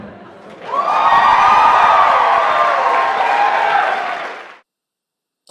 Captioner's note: cheering